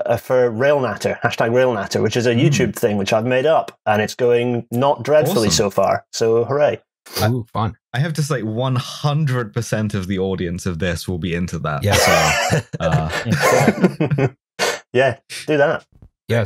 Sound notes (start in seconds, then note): 11.8 laughs; 11.8 laughter